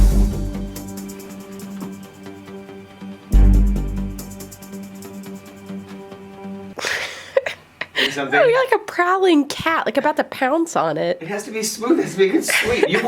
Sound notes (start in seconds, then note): 0.0 upbeat music; 6.8 laughs